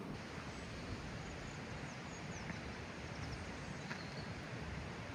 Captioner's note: creak flowing in the distance